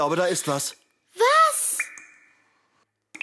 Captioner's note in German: erschrocken